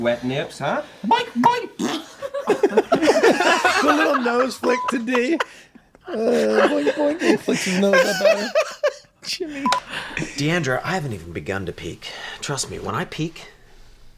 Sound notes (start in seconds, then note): 3.3 blows raspberry; 4.2 group laughing